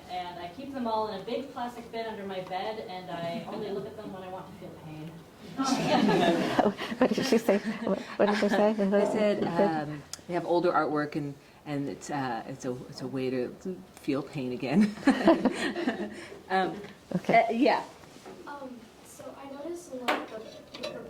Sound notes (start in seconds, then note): 5.6 audience laughing; 14.8 chuckles